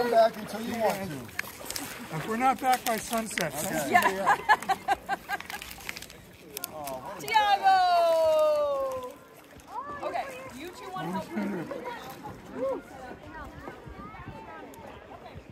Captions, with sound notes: Don't come back until you want to If we're not back by sunset... [Laughter] Diago!